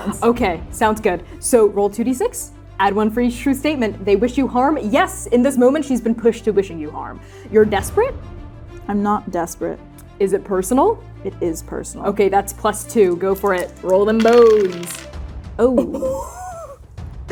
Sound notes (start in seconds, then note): 13.0 dice rolling; 15.8 laughing